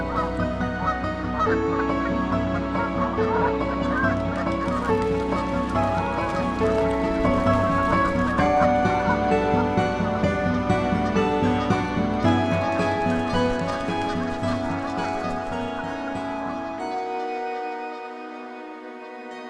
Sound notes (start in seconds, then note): 4.0 geese squawk and flap wings; 13.5 squawking fades out